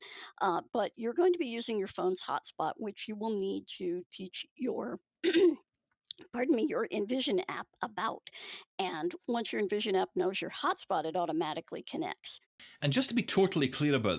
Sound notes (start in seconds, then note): 5.2 clears throat